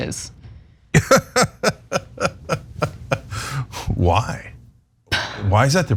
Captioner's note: laugh